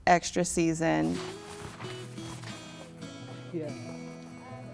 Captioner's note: snow crunches